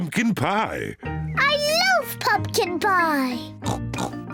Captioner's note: snorts